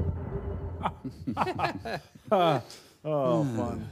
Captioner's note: chuckling